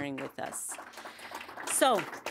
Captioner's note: audience applauding